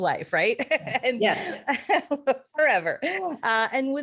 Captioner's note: laughing